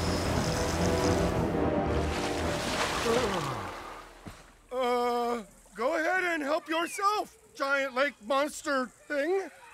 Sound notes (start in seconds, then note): 3.0 yawns